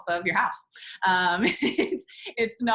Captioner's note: laughs